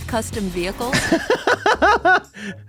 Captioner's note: laughing